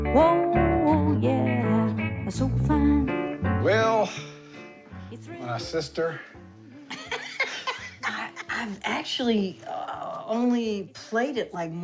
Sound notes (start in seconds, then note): 6.9 laughing